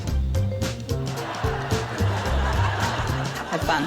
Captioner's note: laughter